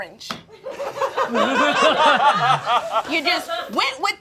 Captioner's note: all laughing